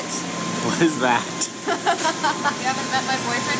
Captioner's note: laughs; laughing